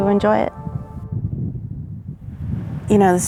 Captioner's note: sound of thunder rumbling